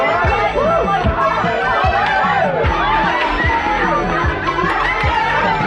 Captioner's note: people cheering; upbeat synthesizer music